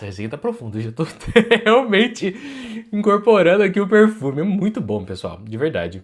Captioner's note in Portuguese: risadas